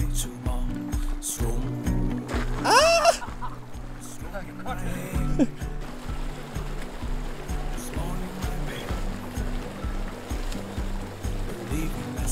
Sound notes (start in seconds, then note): 2.6 laughter